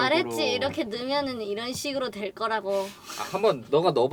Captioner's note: sassy